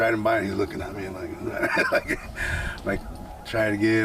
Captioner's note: laughing